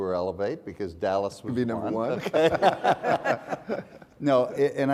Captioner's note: laughs